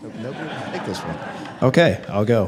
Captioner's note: attendees laugh